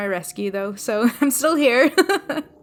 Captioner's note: laughing